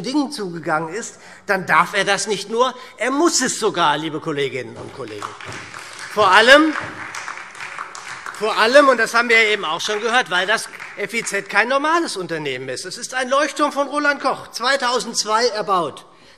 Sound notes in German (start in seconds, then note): 4.7 Beifall SPD und DIE LINKE